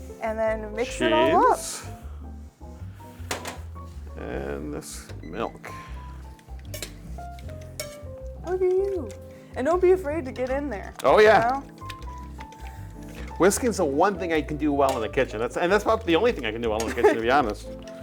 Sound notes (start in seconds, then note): 6.2 whisking sounds